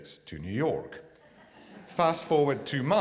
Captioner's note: audience laughs